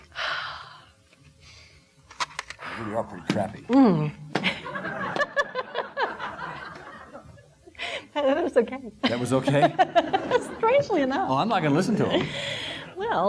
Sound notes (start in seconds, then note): 0.1 exhaling; 4.4 audience laughing; 9.9 laughing